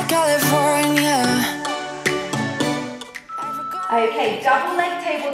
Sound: timer beeping

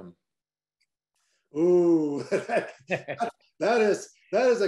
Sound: both speakers laugh

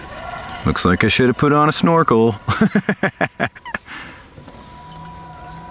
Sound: narrator laughing

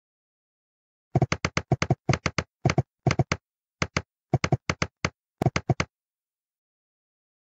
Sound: sound of typewriter

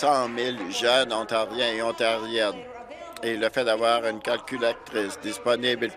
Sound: applause

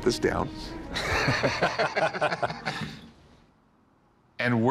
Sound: laughter

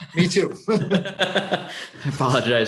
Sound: chuckling

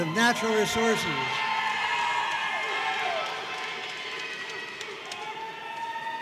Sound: audience cheering and applauding

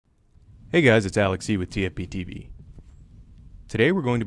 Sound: voiceover

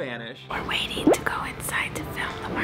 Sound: whispering

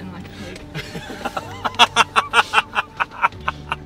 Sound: laughing

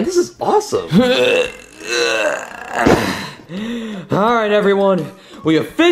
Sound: grunting

